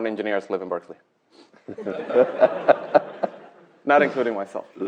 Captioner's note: laughter